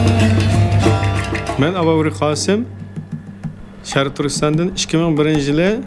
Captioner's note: speaking foreign language